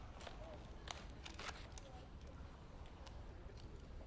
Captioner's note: holster clicks